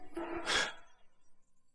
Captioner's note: gasps